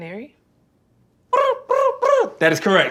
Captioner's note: making bird noises